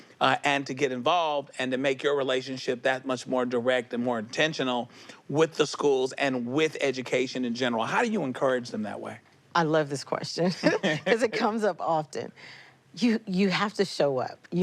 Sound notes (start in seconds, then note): 10.6 laughs